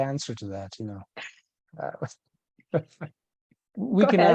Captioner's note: laughing